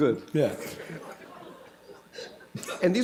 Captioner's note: laughter